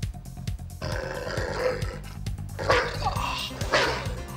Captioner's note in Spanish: el perro gruñe, ladra